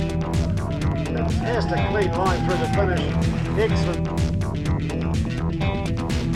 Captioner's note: spectators cheering